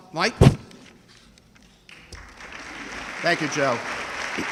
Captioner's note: audience clapping